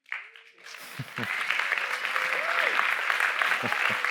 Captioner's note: audience applauds